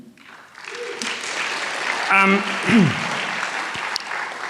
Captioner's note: applause